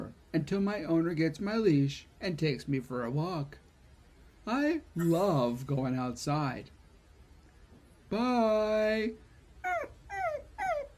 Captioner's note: whimpering